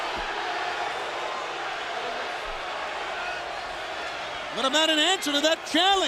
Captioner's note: crowd cheering